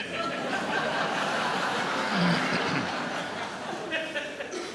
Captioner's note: audience laughs